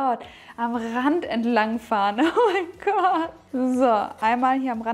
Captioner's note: laughing